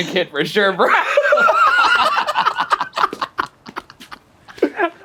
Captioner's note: laugh